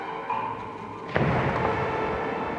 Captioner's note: huge boom